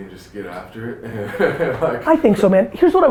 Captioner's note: laughs